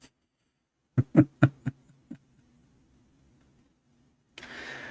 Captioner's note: Ketawa